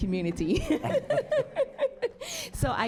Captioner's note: laughs